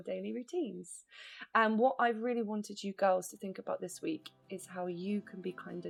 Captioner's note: voice fades